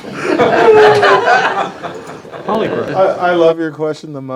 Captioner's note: laughter